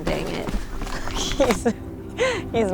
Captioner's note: laughter